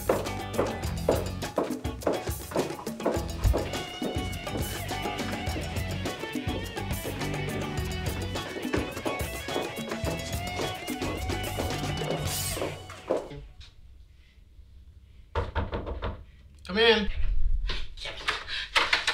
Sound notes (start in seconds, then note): 15.3 door knocks